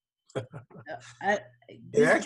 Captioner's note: laughs